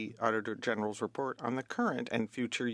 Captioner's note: speaking French